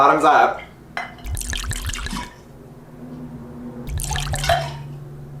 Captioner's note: liquid pouring